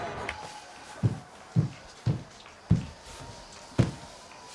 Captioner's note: footsteps thudding